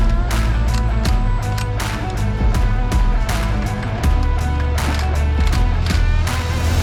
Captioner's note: upbeat music; tool clanking